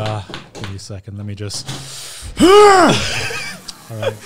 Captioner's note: screams